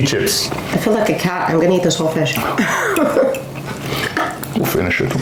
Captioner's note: laughter